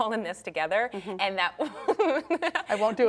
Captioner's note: laughing